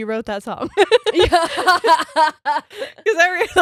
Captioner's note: all laughing